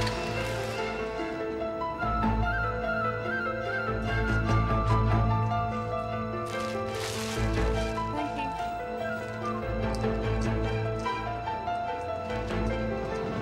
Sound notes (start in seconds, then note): 0.2 melodic orchestral music; 6.4 bag rustling; 9.8 melodic orchestral music